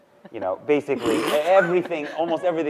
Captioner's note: laughing